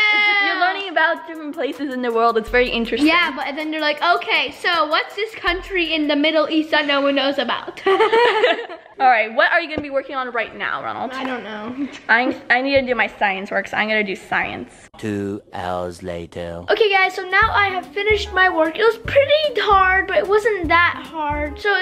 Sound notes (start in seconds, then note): 7.8 both laughing; 15.1 auto Voice